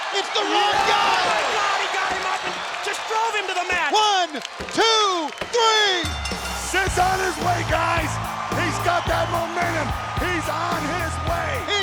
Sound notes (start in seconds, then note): 6.0 bell rings